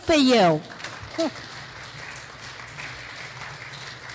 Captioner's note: clapping